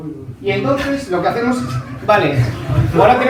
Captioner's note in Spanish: risas